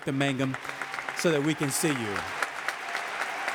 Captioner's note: audience applauding